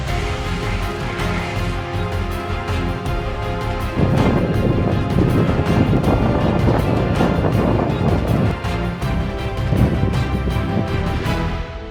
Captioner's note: sound of wind